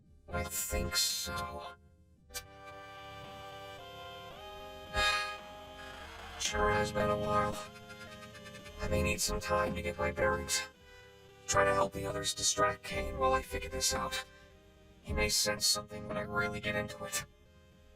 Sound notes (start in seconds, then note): 2.1 computer whirs; 2.4 start-up tune plays; 4.9 sighs